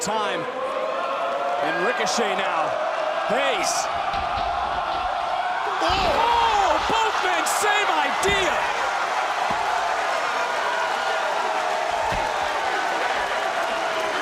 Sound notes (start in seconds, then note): 9.1 crowd cheers; 13.5 crowd chanting "holy --"